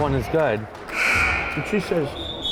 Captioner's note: buzzer buzzing